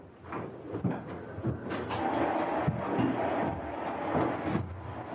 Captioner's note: water running